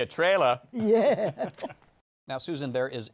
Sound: laughs

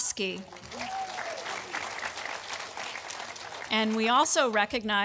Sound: audience applauding

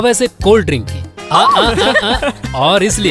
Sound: laughs

